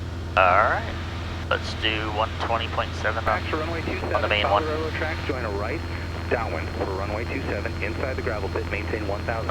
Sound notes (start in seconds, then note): 7.4 ATC chatter